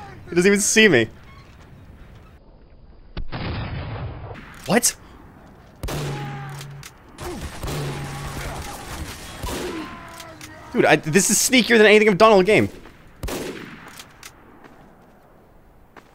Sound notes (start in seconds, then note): 0.0 laughing; 4.3 guns firing; 5.8 man screaming; 12.6 guns firing